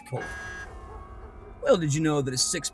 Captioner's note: buzzer buzzes; dark music